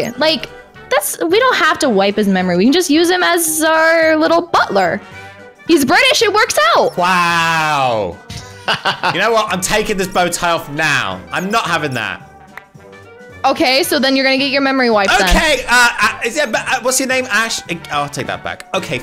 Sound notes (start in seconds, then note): 8.3 laughs